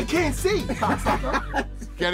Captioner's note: both laugh